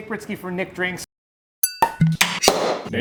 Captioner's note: glass clink; cork pops; soda can opens